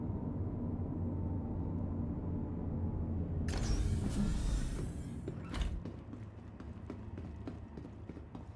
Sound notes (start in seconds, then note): 3.5 doors opening